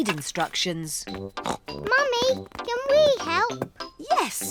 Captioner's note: snorts